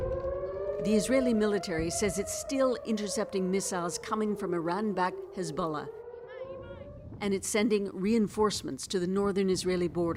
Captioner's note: sirens